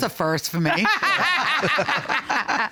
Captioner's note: chuckles